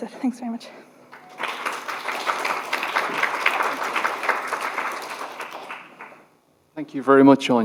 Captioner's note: applause